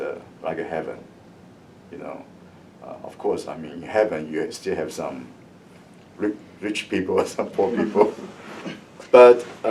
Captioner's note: laughs